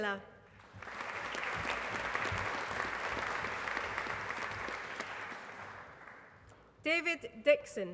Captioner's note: applause